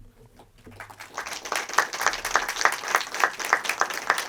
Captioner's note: audience applauding